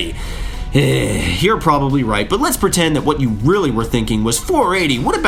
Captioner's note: sigh